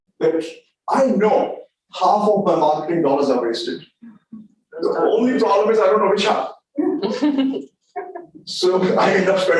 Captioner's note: laughter from audience